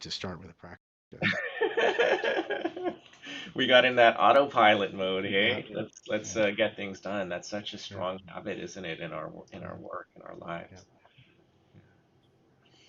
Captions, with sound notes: to start with a practice. (all laughing) - We got in that autopilot mode, eh? Let's get things done, that's such a strong habit isn't it? In our work, in our lives.